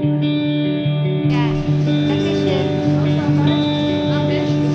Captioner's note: mistakenly spoke German